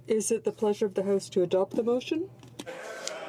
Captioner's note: speaking French